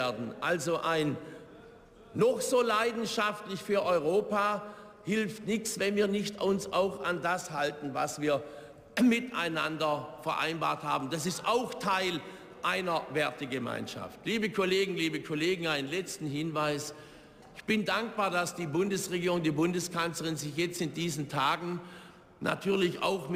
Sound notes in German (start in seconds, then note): none